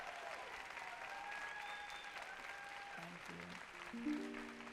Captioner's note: applause